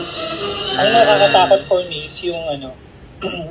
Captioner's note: scary sound